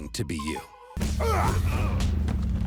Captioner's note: fighting grunts